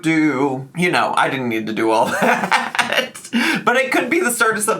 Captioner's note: laughs